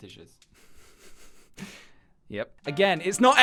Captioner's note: giggles